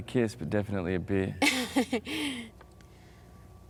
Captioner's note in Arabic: هاردينغ يضحك